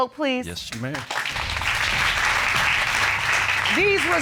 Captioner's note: audience applauding